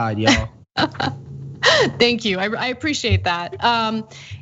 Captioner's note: laughs